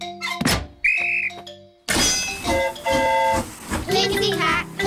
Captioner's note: train horn toots; blows whistle